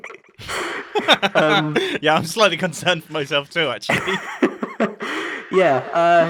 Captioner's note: laughs